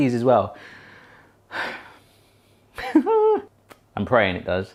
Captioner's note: heavy breathing and laughs